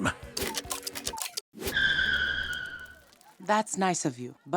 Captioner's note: clocks ticking